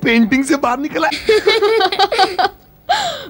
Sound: laughs

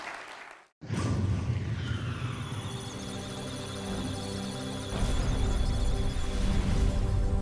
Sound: electronic sounds of data; musical tones

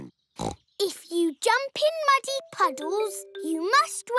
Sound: snorts

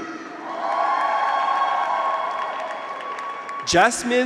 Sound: graduates cheer; audience applauds

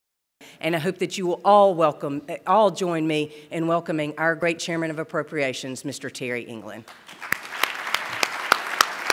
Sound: applause

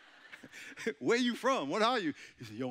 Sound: chuckling; audience chuckling

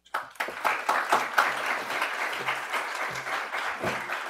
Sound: audience applauds

